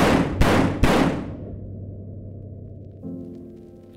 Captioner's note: gun shots; wind blowing; soft piano music